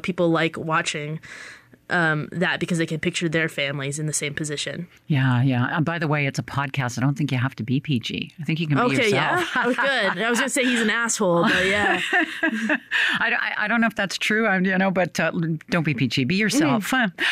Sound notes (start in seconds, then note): 8.8 laughs; 11.9 laughter